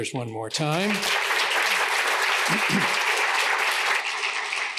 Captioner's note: applause